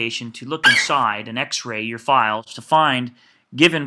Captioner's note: FlightCheck eagle screeches